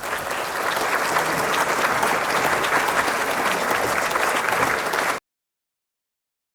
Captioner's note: audience applauds